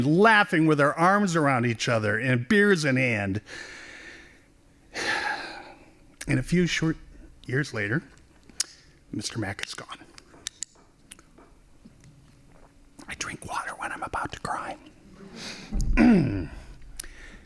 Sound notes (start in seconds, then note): 8.6 whispering